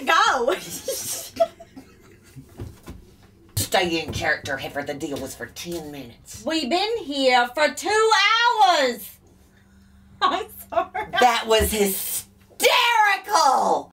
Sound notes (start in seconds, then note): 0.5 giggles; 10.3 giggles